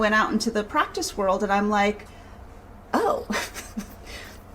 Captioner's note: laughs